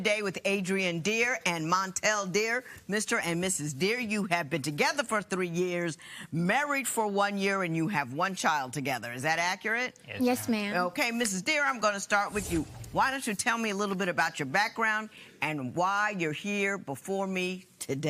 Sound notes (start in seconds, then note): none